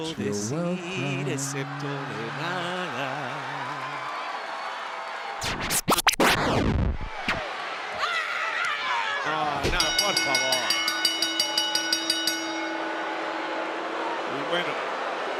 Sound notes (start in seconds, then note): 2.0 applause